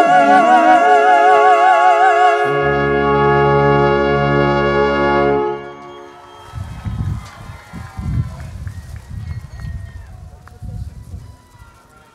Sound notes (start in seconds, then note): 5.6 cheering